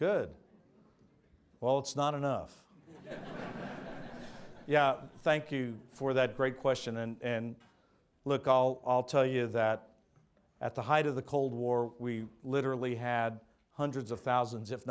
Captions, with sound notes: Good. Well, it's not enough. (audience laughs) Yeah, thank you for that great question and look I'll tell you that, at the height of the Cold War we literally had hundreds of thousands